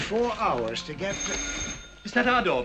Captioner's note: doorbell ringing